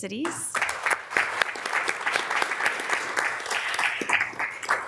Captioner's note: members applauding